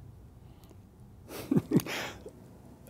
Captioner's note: laughing